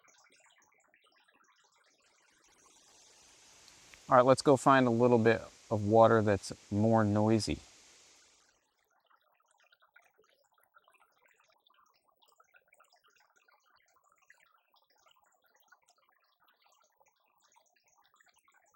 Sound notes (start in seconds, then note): 12.2 water Sounds